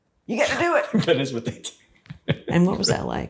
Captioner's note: laughs